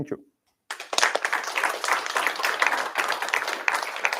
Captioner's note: applause